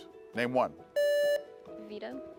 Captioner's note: buzzer beeps